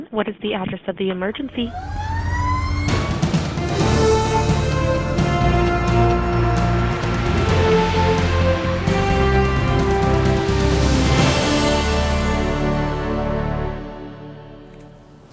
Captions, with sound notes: what is the address of the emergency? (sirens) (tense music)